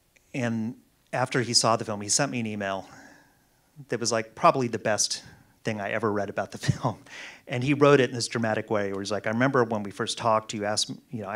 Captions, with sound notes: And after he saw the film he sent me an email that was like probably the best thing I ever read about the film. (laughs) And he wrote it in this dramatic way where it's like, "I remember when we first talked, you know,